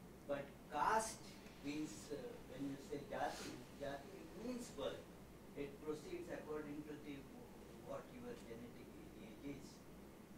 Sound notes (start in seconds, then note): 0.0 non-english; 2.6 non-english